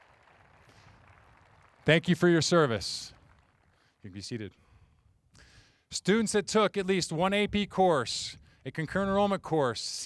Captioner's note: applause